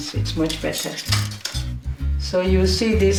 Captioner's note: plastic crinkling